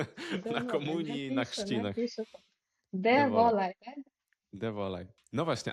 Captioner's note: laughter